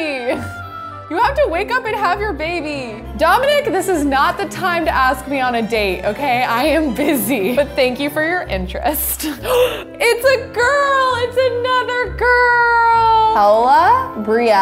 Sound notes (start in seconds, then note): 9.2 gasps